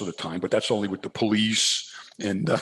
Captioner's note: laughs